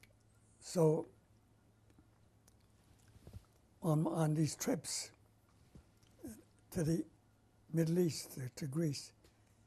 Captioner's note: pauses for 3 seconds